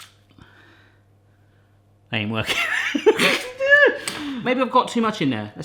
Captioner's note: laughing